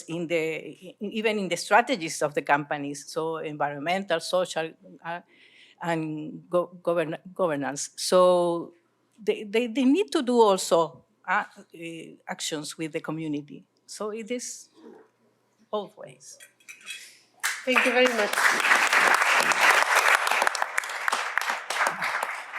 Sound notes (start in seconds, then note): 17.4 applause